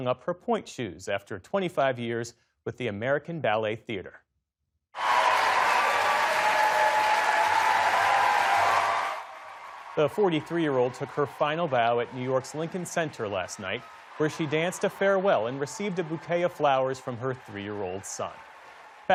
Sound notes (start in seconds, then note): 9.9 cheering